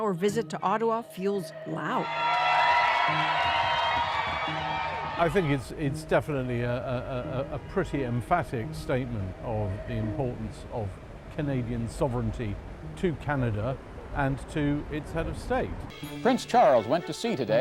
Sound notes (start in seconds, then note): 4.5 cheers and Applause